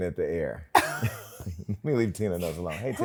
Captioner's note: laughter